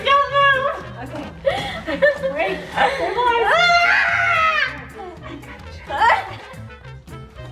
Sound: screams

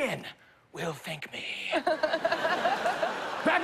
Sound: laughter

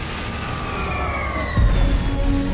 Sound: ship impacting

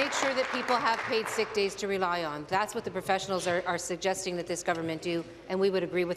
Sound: applause

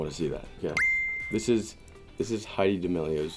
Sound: ding

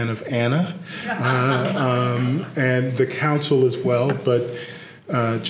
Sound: laugh

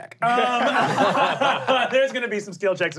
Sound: laughing

